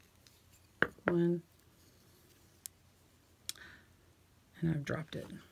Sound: needle clattering

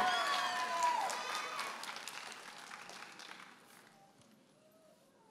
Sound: audience applauding and cheering

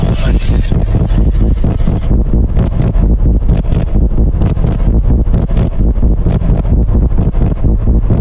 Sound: sounds of bootyquake resume

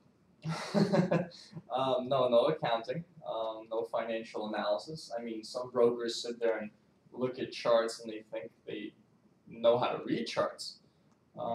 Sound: laughs

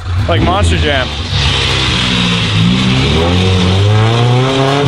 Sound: engine revving

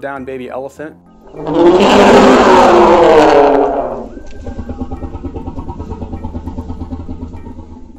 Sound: elephant bellows

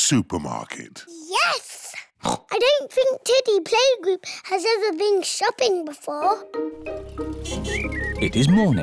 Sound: oinks

